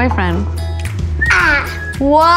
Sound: whistles

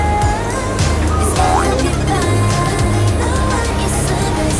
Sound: groaning and Moaning

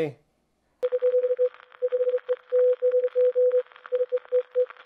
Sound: radio beeping

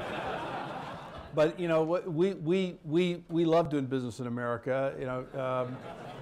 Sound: laughter

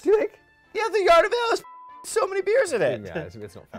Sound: beep

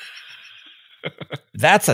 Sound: laughing

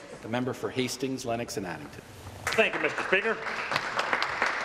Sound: applause

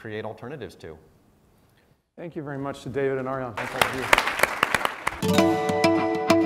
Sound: applause

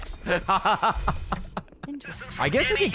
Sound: laughs

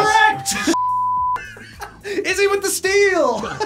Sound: React laughs

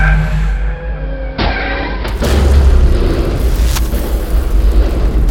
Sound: loud collision, breaking glass

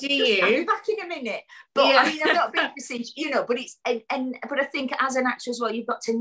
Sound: laughs; laughs

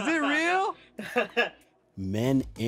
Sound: laughs

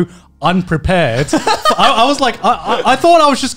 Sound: laughing

